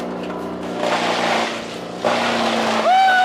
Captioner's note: engine Revving; upbeat Music; cheering